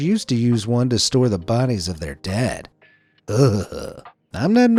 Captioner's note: shuddering